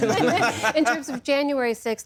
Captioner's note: laughter